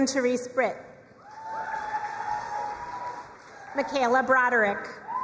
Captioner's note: crowd cheering and applauding